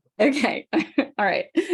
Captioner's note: chuckles